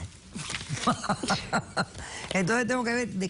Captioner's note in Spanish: Risas